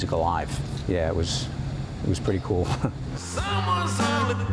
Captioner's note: laughs